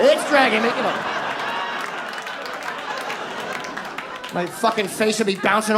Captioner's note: audience laughs